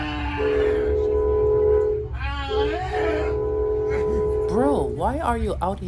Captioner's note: cab Car honks and passenger making nonsensical noises